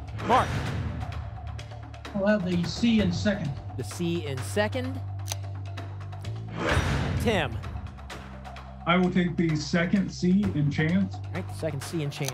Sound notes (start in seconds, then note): 6.5 lock sound